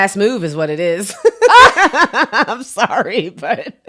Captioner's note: both laugh